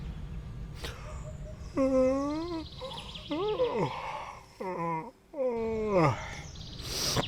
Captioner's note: yawns